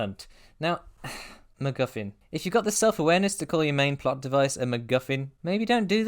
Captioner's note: exhale